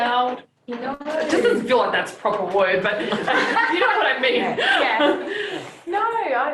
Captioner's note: laughter